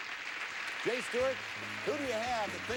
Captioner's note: audience applauding